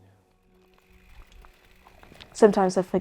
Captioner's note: bike wheel hub clicking